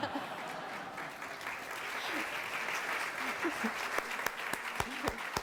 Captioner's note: non-english speech; applause